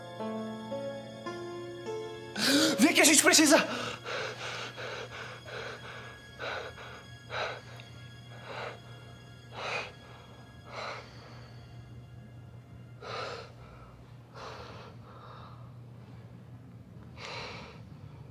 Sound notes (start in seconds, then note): 2.3 breathes in; 3.6 laboured breathing